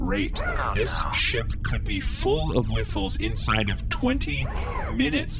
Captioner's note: sighs; quietly